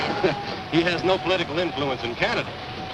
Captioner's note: chuckles